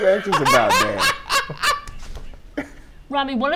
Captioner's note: Ricky laughs